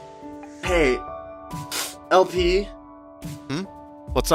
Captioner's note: sniffle